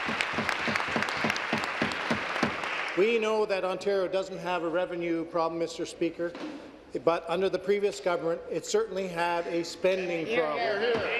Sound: applause

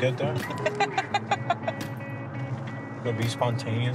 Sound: laughs

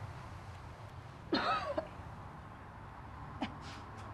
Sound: coughing

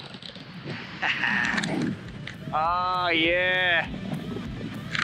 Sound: laughs

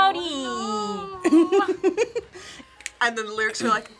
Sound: React laughs

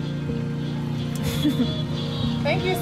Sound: laughter

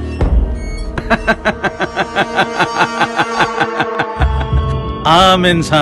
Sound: laughter

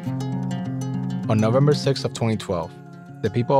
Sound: voiceover

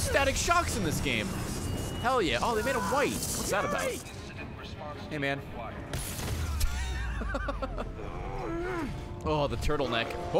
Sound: laughs

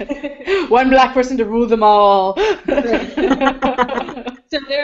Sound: all laugh

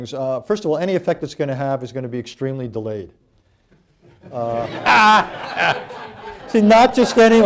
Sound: laughter

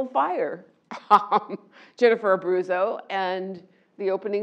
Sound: laugh

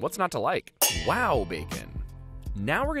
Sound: pans clanging

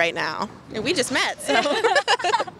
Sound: laughs

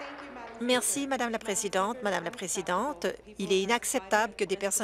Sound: applause

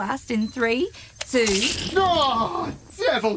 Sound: Bob cries out in pain

